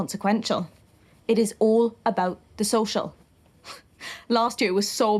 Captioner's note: she laughs, softly